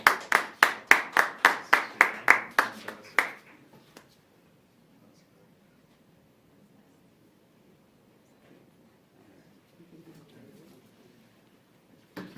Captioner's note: applause